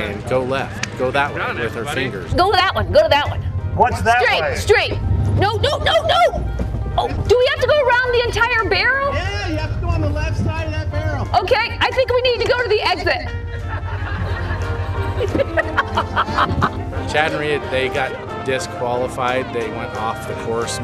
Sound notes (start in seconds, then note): 13.3 laughing